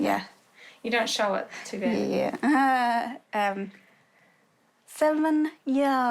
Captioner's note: chuckles